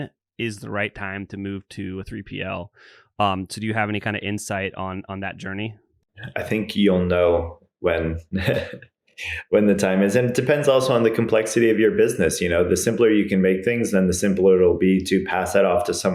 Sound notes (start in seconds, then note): 8.3 laughs